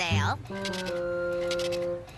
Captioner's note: register ticking